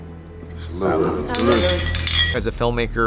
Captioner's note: bottles clanking